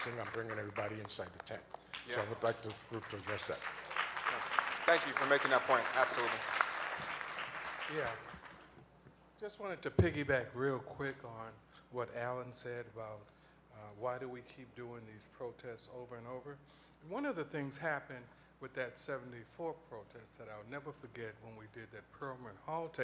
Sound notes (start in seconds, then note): 3.8 applause